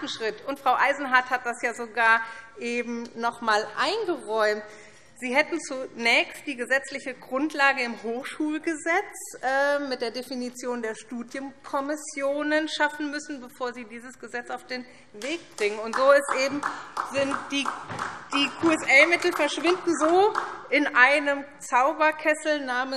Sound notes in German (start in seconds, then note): 16.2 Vereinzelter Beifall SPD